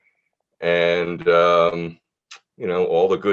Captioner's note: clicks tongue